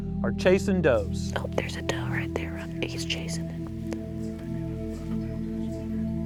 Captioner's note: whispering